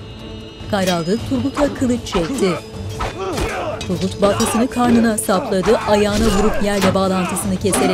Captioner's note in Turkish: Dövüş sesleri